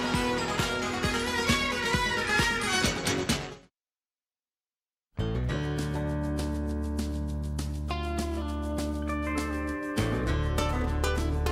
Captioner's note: crowd cheering